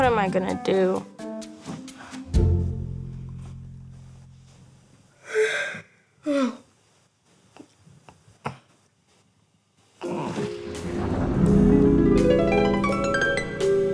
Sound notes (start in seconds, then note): 3.8 snorting; 3.8 yawning; 10.9 harp trills; 13.6 gentle music